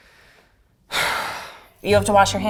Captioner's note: sighing